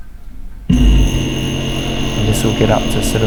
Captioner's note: compressor buzzing